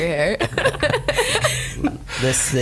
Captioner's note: laughs